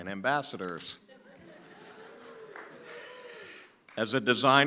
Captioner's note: laughing